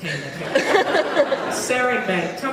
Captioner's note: laughs